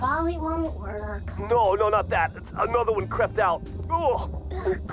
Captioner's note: choking noises continue